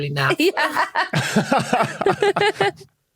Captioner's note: laughs